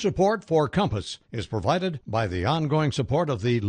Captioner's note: voiceover